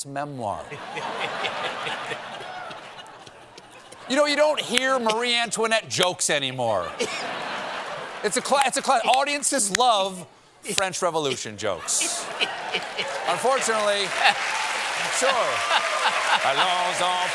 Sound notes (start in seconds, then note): 4.0 laughter